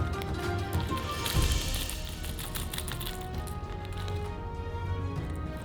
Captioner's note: rivets rattling